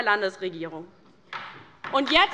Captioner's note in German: Beifall bei der LINKEN